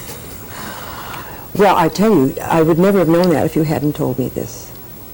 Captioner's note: laughs